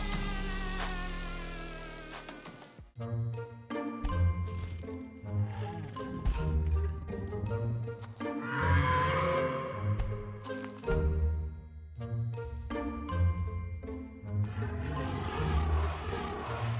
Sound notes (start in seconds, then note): 1.1 light quizzical music; 8.4 animal call sounds